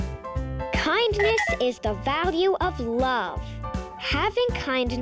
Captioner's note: planet clinking